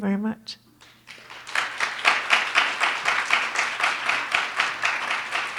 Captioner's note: audience clapping